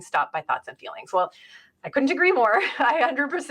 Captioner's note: laughs